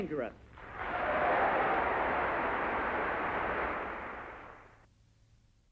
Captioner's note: crowd cheers